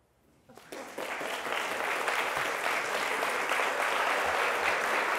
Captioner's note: applause